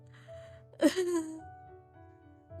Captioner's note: sobs